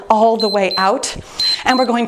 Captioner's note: timer beeps